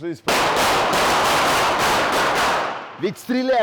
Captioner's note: loud gunshots